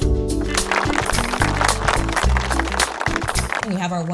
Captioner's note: audience applauds